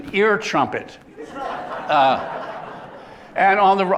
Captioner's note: laughter